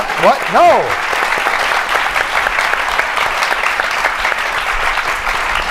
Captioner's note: applause